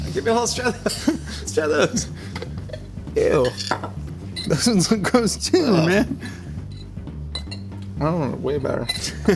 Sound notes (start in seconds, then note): 0.5 chuckling